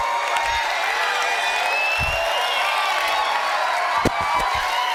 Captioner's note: students cheering